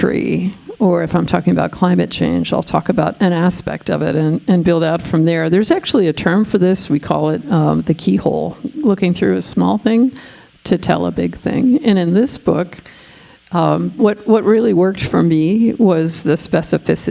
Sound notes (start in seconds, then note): none